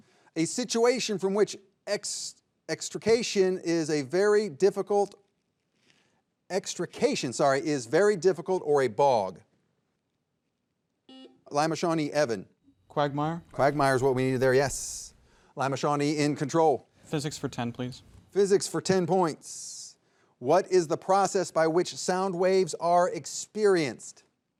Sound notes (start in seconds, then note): 11.1 buzzer buzzing